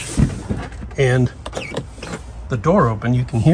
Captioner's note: electronic door latch opening